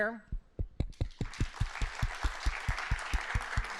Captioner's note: applause